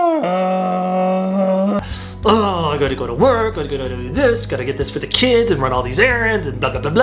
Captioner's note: grunting